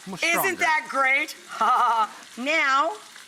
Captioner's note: laughter